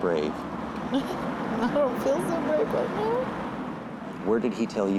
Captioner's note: chuckles